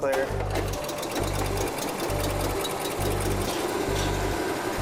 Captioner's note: engine turns over